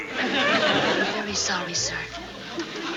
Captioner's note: whispers